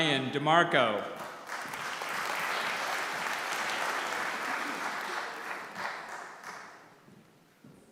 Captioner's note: applause